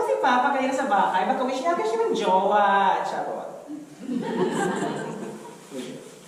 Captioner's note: audience laughter